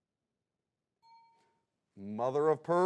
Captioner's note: bell dings